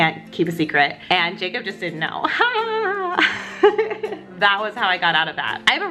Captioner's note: laughs